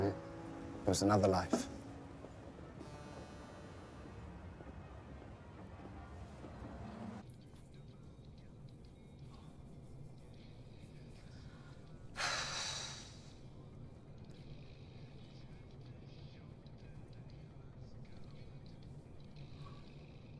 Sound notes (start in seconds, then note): 7.4 music playing on; 11.6 Eloise sighing